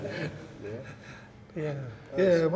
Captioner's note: laughter